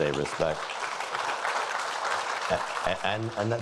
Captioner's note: applauding